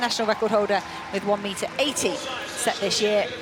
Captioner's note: applause